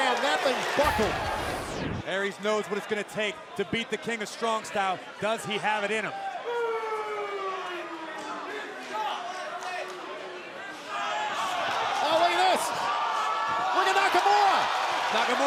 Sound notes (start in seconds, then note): 6.0 crowd chatter